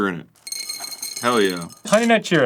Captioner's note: cheerios hitting the ceramic bowl